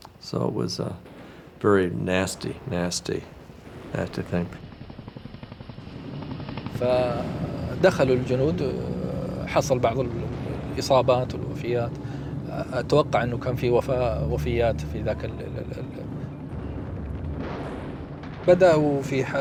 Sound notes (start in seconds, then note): 4.7 helicopter blades whirring; 8.4 speaking in Arabic